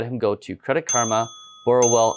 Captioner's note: bell dinging